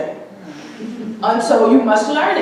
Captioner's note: audience chuckling